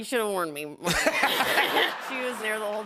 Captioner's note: laughter